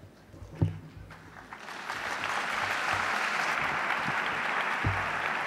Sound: audience applauds

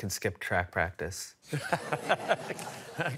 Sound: laughter

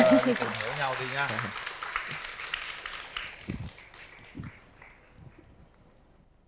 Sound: applause

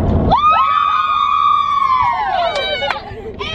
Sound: screaming

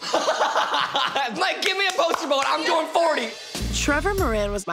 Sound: laughing

